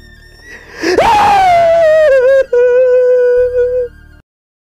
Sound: shouting

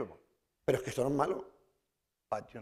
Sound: speaking spanish

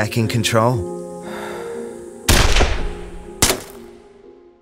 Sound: gunshot sound

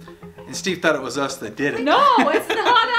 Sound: laughs

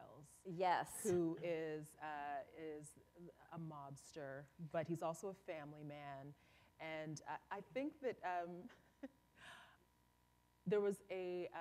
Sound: chuckle

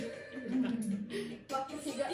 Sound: laughing

